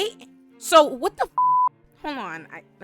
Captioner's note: beep